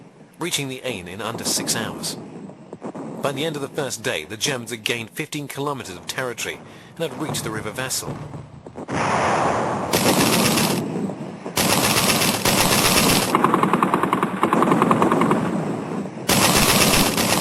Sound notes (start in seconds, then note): 8.8 heavy artillery booming; 8.9 guns blasting